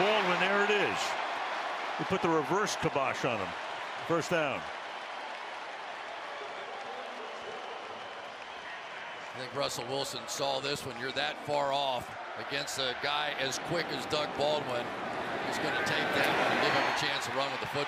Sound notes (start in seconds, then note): 1.7 cheering; 6.8 pa announcement